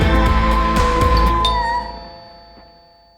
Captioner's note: Anna vocalizing; doorbell rings